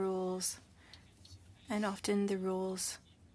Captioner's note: speaking French